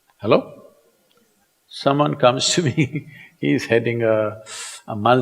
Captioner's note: laughs